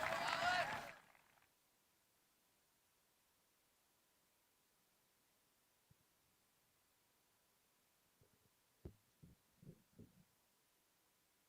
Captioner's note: applause